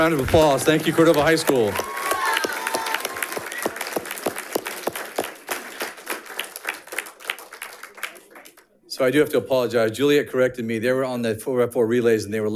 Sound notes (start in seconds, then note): 2.2 audience applauding and cheering